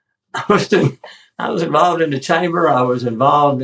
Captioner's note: laugh